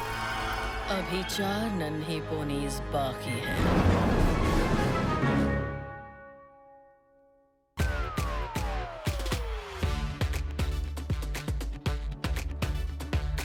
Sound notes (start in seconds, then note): 3.5 thunder booming